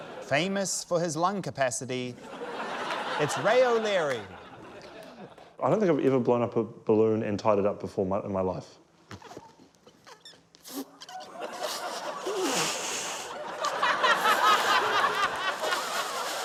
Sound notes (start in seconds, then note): 10.6 balloon squeaks feebly; 13.2 laughter